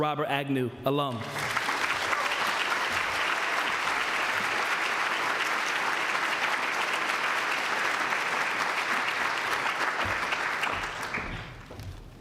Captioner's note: applause